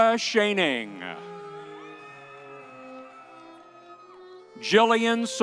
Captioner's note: audience cheering